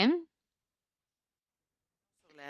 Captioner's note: speaking French